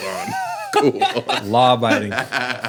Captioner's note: laughing